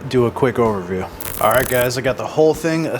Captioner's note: static crackling